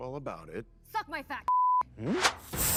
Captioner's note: beep; lasers whirring